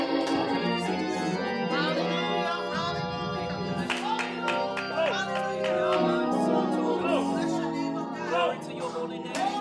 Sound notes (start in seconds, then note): 3.8 clapping